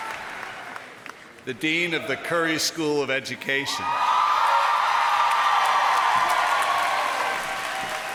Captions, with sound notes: The dean of the Curry School of Education. [APPLAUSE AND CHEERS]